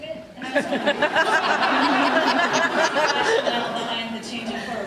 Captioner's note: laughs